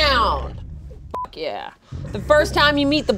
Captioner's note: beep